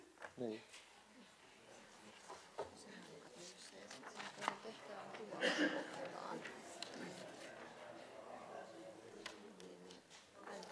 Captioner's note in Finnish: taustapuhetta